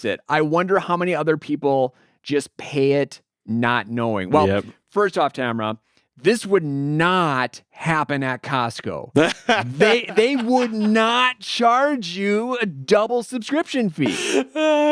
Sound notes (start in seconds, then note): 9.1 laughing; 14.0 both laughing